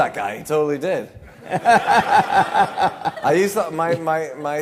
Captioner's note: laughter